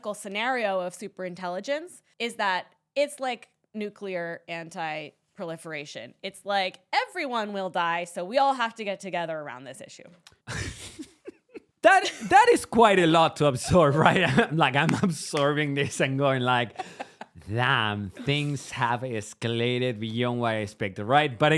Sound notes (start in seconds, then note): 10.4 both laughing